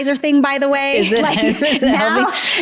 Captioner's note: laughing